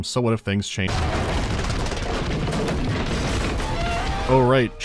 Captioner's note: unhappy train noises